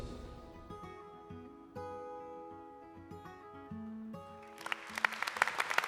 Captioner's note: applause